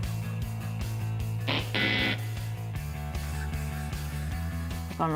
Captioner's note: wrong answer noise